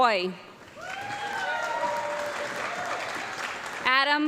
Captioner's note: audience clapping and cheering